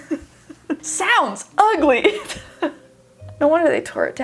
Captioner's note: laughs